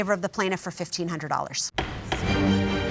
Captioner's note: bangs gavel